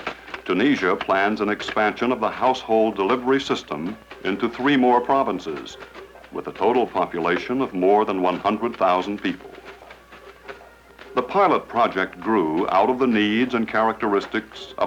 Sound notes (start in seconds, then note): 9.6 leaves rustling